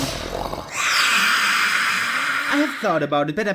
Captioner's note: whisper screams